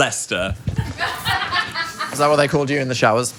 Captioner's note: people laughing